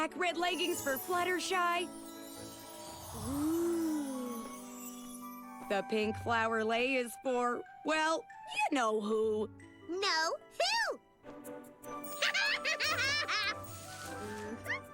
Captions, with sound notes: RED LEGGINGS FOR FLUTTERSHY. OOH. THE PINK FLOWER LEI IS FOR, WELL, YOU KNOW WHO. NO, WHO? [ LAUGHS ]